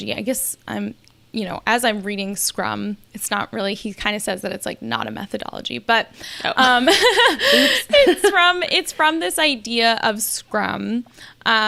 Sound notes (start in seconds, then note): 6.5 both laughing; 6.5 laughs